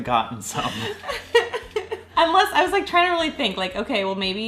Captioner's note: laughing